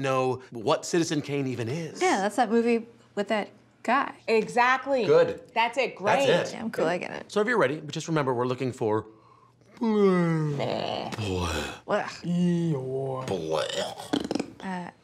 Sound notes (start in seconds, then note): 9.7 yawns loudly